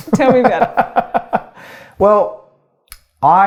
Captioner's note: laughing